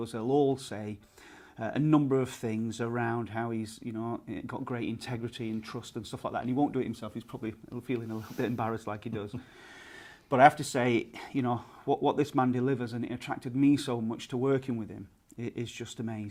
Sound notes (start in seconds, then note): 9.2 guy laughs